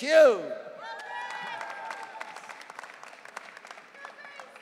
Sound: audience cheering

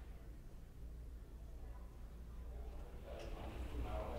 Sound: low hum of chatter

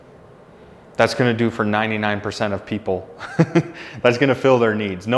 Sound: laughing

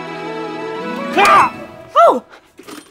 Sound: shout

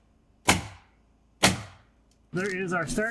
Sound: nail gun bangs

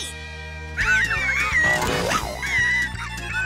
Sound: squeaking

